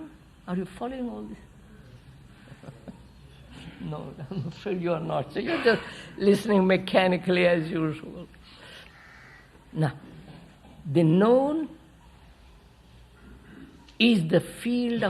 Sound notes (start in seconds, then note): 2.4 laughs